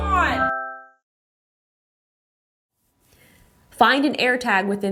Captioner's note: device chimes